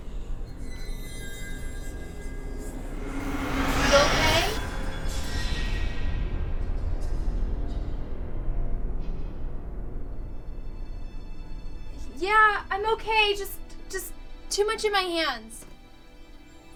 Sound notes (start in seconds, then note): 1.1 dramatic music; 1.1 eerie whispering